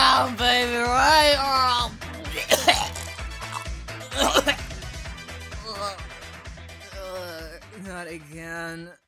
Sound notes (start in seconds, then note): 4.0 cough; 4.0 gagging Noises